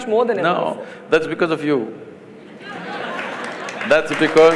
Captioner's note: laughter/Applause